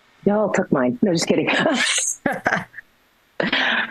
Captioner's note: laughing